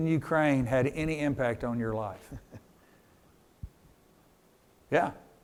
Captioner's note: chuckles